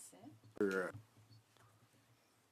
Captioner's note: speaking French